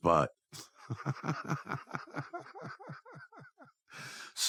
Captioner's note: laughs